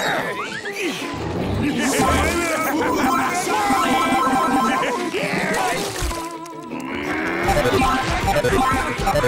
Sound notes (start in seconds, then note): 2.1 laughing